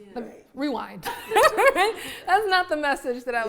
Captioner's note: laughs